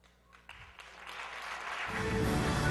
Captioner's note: applause